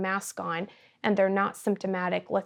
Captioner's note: none